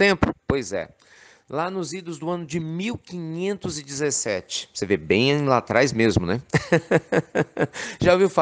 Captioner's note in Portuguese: Risos